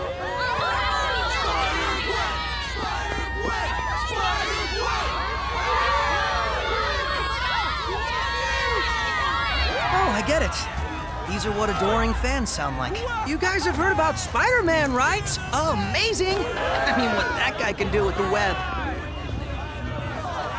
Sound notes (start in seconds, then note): 0.0 chanting; 5.7 cheering